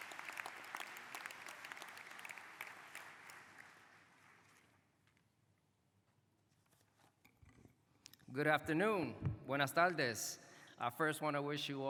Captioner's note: cheers and applause